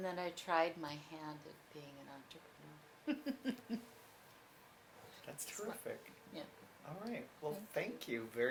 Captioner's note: laughs